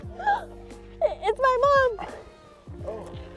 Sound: gasps

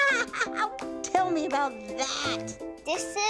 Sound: laughing

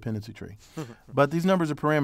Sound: laugh

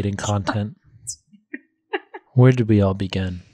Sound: laughs

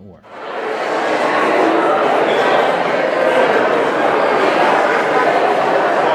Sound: background conversations throughout

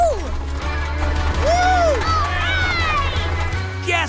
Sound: cheering

